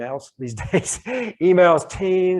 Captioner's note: chuckles